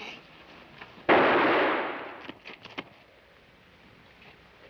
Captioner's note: gunshot bangs